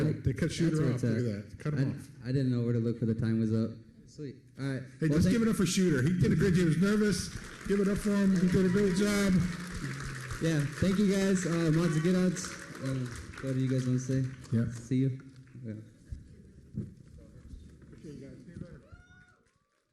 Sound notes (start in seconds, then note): 10.5 applause; 12.3 foreign language